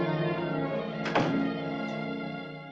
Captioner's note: door thuds